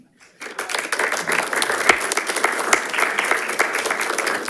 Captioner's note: audience applauding